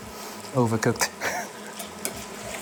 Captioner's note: chuckles